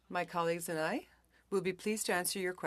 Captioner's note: speaking French